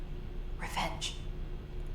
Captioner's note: whispering